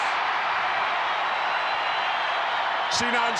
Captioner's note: crowd cheers